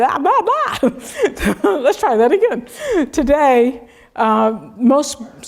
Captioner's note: laugh